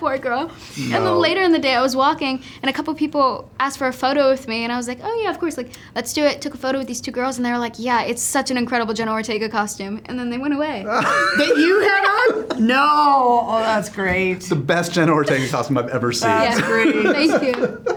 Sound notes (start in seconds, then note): 10.8 laughs